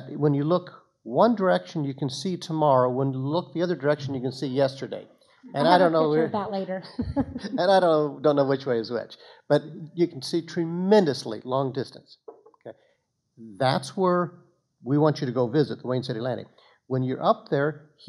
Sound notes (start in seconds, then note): 5.6 laughing